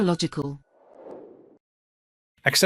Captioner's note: logo whooshes out